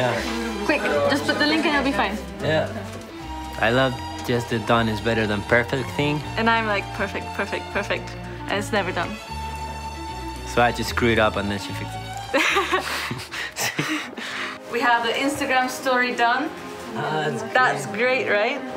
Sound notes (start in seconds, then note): 12.3 laughs